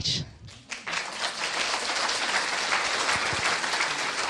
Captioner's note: audience clapping